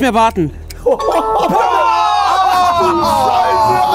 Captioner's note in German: Jubel, freudige Laute